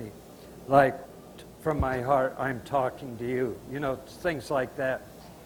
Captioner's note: signing while speaking